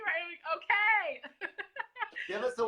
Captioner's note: laughs